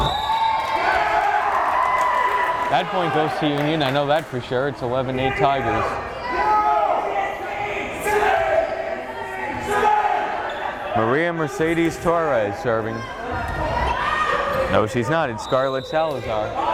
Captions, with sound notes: (whistle blares) (crowd cheering) That point goes to Union, I know that for sure. It's 11-8 Tigers. Maria Merecedes Torres serving. No she's not, it's Scarlett Salazar.